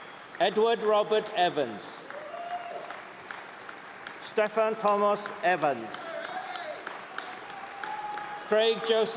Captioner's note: applause